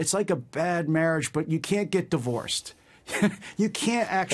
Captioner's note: laughter